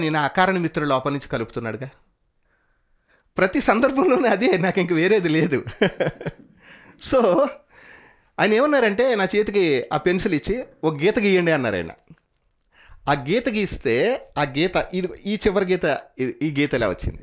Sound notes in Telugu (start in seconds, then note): 5.2 నవ్వు